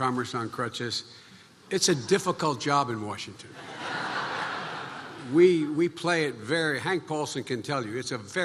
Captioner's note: laughter